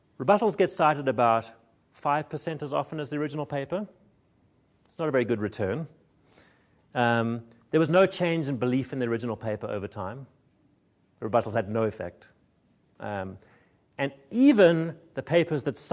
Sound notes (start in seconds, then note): none